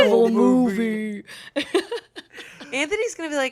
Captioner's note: everyone laughs